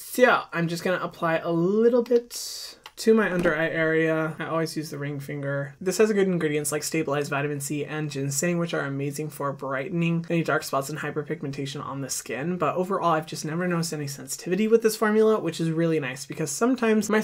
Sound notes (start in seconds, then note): none